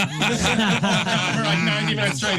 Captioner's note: laughing